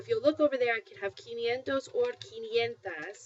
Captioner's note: spanish